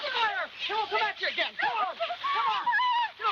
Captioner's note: screaming; screaming